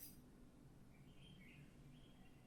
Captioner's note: bird singing